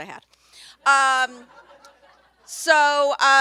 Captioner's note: everyone laughs